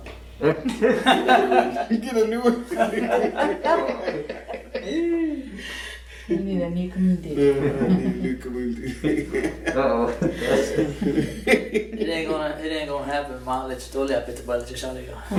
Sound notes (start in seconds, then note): 7.5 laughter; 15.1 laughing